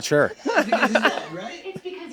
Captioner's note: they laugh